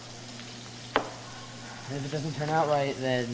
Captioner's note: knife chops